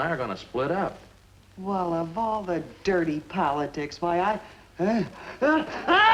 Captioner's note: sneezing